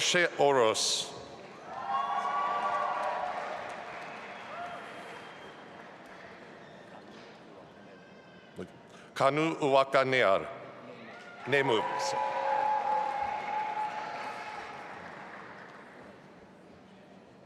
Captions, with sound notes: Orsi Orosz. (audience applauding) Kanu Uwakanear. Neme, sorry. (audience applauding)